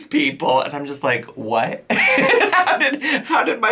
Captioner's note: laughs